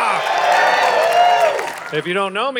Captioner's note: audience cheering